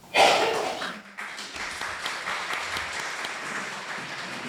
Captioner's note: audience applauding